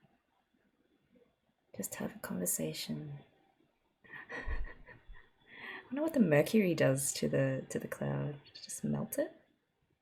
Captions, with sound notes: Just have a conversation. [laughs] I wonder what the mercury does to the cloud. Just melt it?